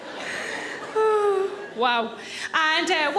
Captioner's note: Sarah sighs